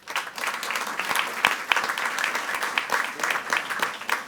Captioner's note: all applauding